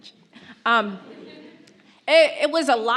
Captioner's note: audience laughs